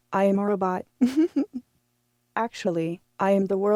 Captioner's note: chuckles